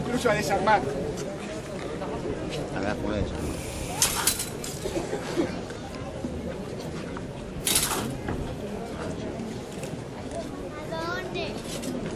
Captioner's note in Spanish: chocan las espadas, el público comenta